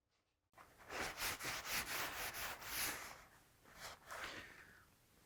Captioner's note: fabric rubbing